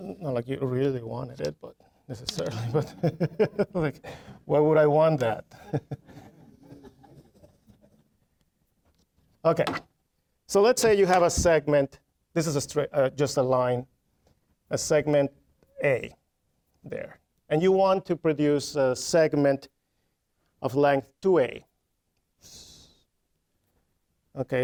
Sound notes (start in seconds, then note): 5.5 laughing; 5.8 audience chuckling